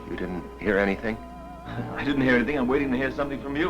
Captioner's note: laughs